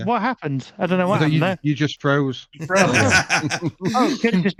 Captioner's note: laughing